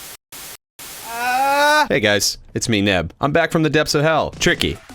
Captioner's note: distant to loud scream while static sound plays